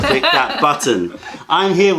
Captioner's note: laughter